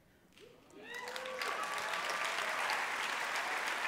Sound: applause

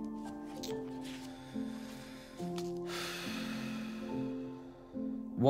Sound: craig sighs

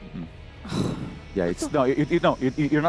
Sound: sigh

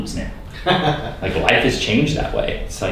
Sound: laughing

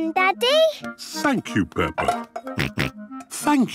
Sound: snorts

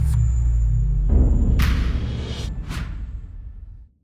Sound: boom

